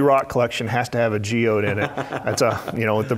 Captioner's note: laugh